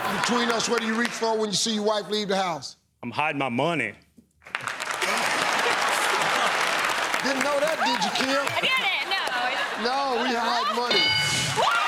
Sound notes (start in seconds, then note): 4.4 applause